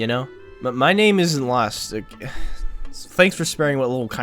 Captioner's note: sigh